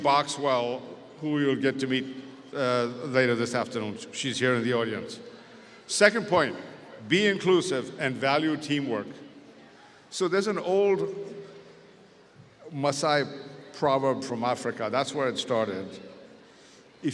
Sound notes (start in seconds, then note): 11.6 speaks foreign language